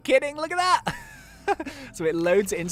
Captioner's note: laughs